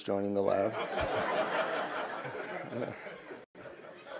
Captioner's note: crowd laughs